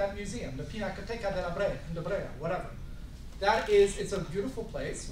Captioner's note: speaking italian